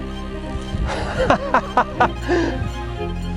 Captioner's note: laughing